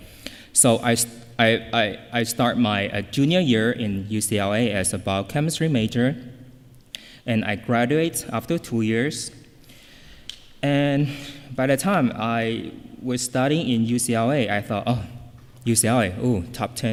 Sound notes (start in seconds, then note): none